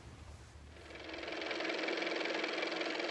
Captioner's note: car motor